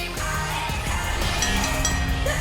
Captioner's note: bell ringing